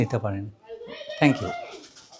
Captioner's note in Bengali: সশব্দ হাসি